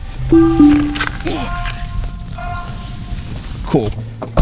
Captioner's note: car beeping